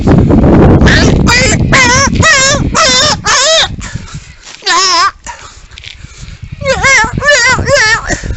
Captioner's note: imitates: irritating cockatoo-SQWARKS